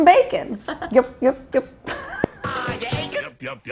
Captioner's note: both giggling